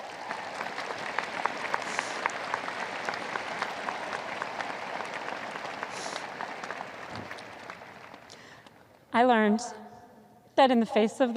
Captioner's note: audience applause